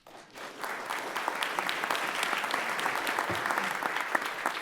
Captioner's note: everyone applauding